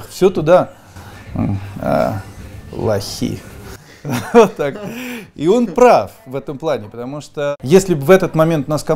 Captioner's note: laughing